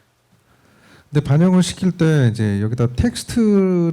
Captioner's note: speaking korean